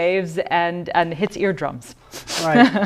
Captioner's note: laughter